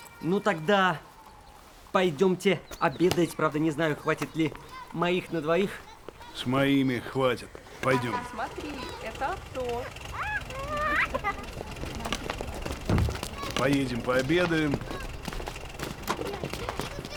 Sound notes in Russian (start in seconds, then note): 10.1 детский смех; 11.3 тихий рокот мотора